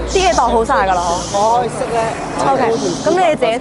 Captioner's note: crowd arguing